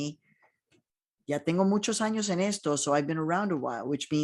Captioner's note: speaking in foreign language